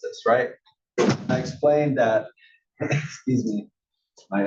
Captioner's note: cough